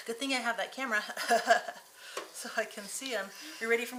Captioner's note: chuckling